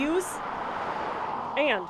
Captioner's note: nat of car